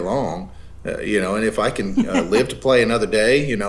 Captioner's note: laughs